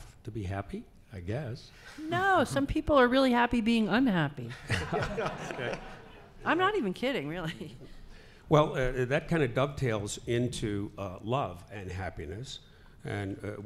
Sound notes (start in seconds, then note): 4.6 laughing